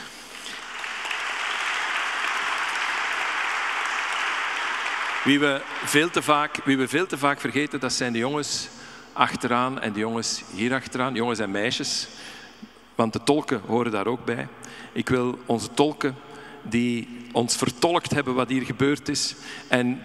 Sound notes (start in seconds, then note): 0.0 audience applauding; 5.1 speaking in Dutch